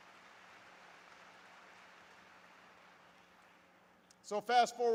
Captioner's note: applause